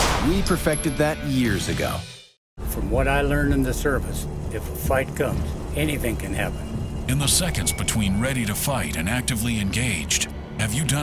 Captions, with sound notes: we perfected that years ago. - From what I learned in the service, if a fight comes, anything can happen. - [Voiceover] In the seconds between ready to fight and actively engaged, have you done